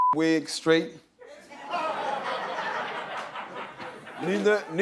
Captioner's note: laughter